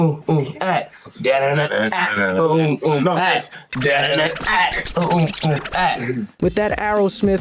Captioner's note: beatboxes; beatboxing and vocalizing